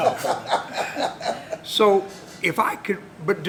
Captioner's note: laughter